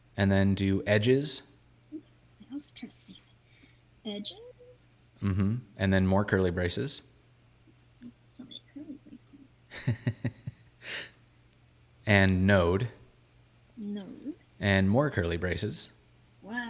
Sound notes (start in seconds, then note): 9.7 laughing